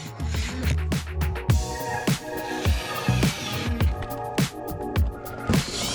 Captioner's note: drill whirring